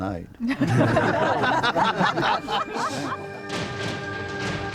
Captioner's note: group laughs